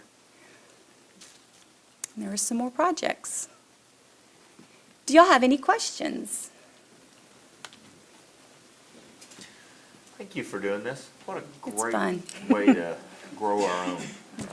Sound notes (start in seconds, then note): 12.2 laughs